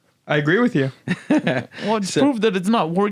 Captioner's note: laughs